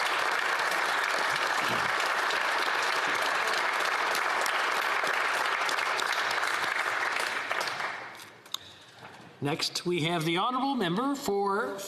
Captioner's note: applause